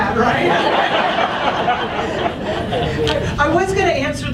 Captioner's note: audience laughs